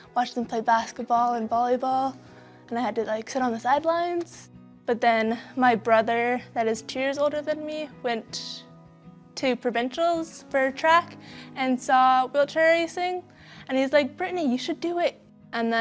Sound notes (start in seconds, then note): none